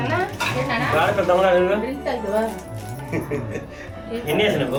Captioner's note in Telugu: నవ్వు